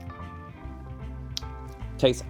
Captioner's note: lip smack